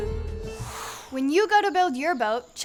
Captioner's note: whoosh